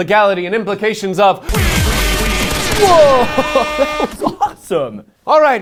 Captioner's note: explosions and airhorns